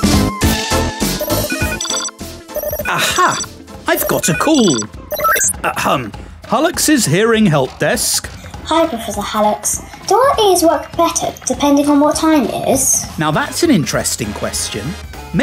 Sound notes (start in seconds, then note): 1.1 phone ringing